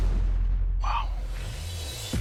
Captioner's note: whispers